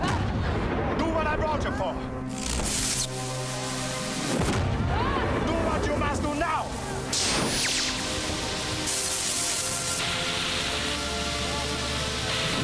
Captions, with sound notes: - Do what I brought you for! (electrical zapping) (explosion) Do what you must do now! (zapping) (electrical zapping)